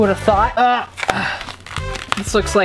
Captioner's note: grunts